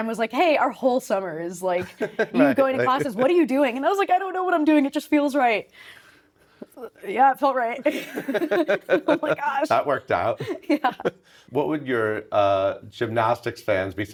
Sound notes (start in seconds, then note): 1.8 laughing; 7.8 laughing